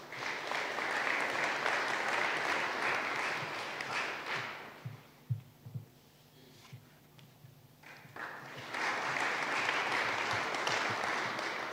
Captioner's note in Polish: oklaski